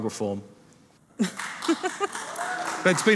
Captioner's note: audience applauding